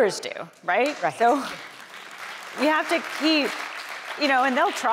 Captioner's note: audience applauding